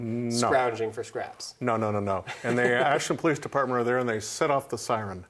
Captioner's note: laughs